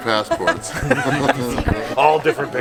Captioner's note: all laughing